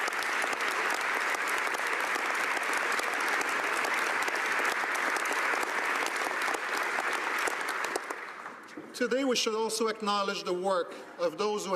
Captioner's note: cheering and Applause